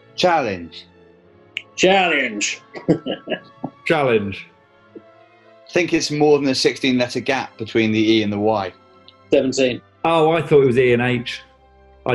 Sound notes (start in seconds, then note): 1.7 accented; 3.8 chuckling